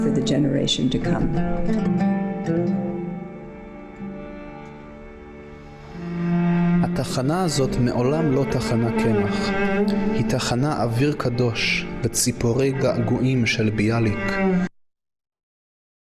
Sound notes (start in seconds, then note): 5.8 reading in Hebrew